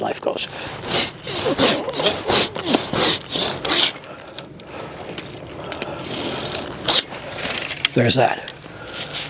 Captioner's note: sawing sound